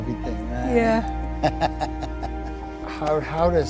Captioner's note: laughing